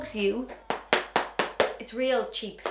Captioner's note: shoe tapping